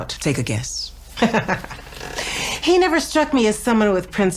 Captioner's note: laughing